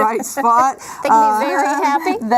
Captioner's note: laughing